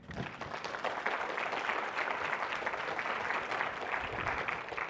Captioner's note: audience applauding